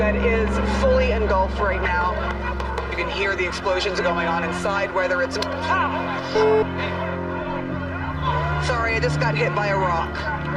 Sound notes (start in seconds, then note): 6.2 electronic beeping; 6.4 protesters chanting